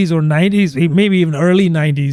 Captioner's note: uh